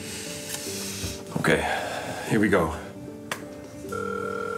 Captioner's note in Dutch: telefoon gaat over